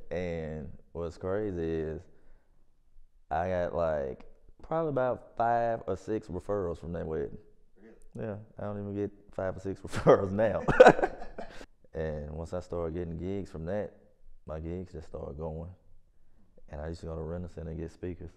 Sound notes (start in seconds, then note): 10.5 laughs